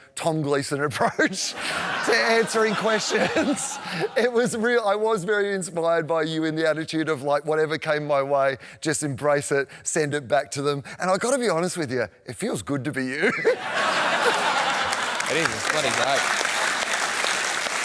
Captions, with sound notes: Tom Gleeson approach to answering questions. It was real... I was very inspired by you in the attitude of like, whatever came my way, just embrace it, send it back to them. And I got to be honest with you, it feels good to be you. (LAUGHTER) It is. It's bloody great.